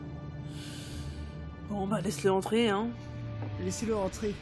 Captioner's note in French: a un long soupire